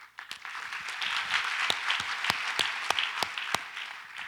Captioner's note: audience applauds